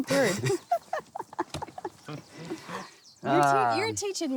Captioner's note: laughing